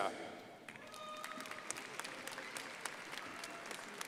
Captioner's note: crowd applauding